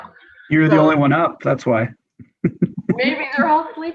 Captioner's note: laughs